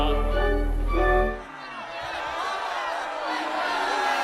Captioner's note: audience boos and jeers